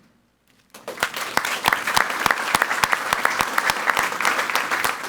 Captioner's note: people clapping